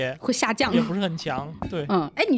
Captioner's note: socializing